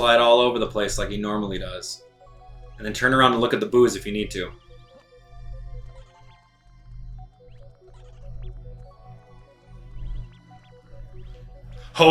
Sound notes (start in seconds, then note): 6.4 gaming sounds; 6.4 instrumental music